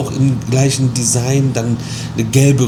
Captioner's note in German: none